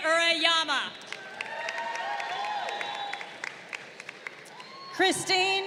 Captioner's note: crowd cheering